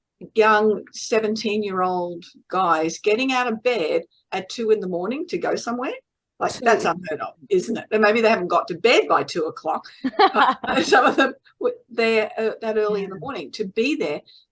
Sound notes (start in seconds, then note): 10.0 everyone is laughing